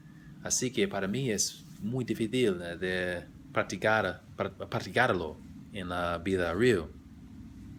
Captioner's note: spanish